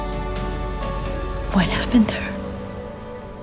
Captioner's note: voiceover